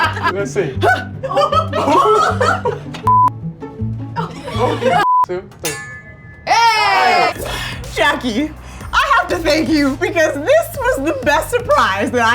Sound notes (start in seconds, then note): 0.0 laughing; 3.1 beep; 4.1 laughing; 5.0 beep; 5.5 clinking; 6.5 cheering